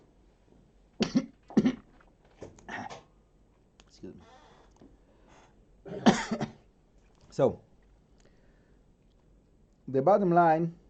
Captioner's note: drinking, couf